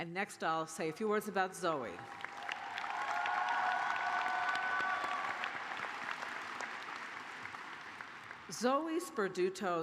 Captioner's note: cheers and applause